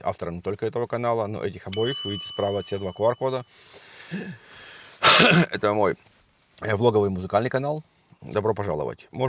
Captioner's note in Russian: откашливается